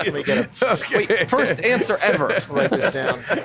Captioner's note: laughter